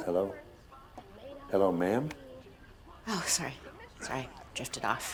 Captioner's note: none